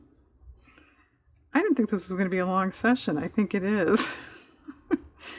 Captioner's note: laughs